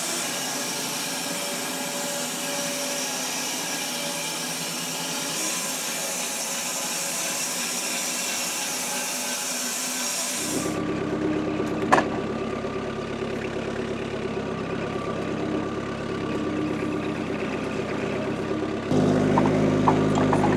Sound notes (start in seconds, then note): 0.2 saw whirring; 6.9 saw whirring; 10.5 engine revving; 16.2 engine revving